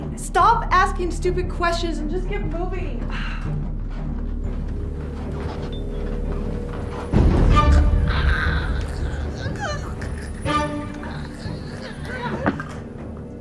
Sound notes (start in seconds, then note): 3.4 Doris sighs; 8.0 Doris choking